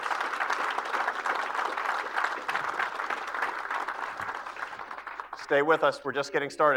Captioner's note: applause